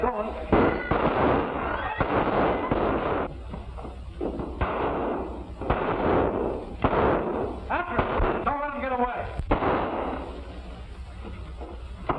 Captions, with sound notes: Never mind, get going. [gunshots] After him. Don't let him get away.